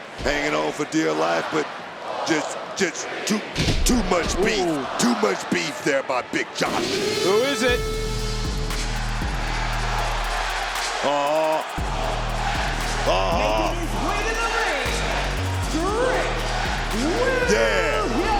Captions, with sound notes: Hanging on for dear life, but just too much beef. Too much beef there by big Josh. Who is it? (alarm blares) (bass heavy hip hop music) (crowd chants "Whoop that Trick") Uh-huh. Uh-huh! Making his way to the ring. Trick Williams! Yeah!